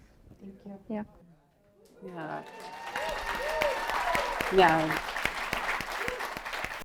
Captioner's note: applause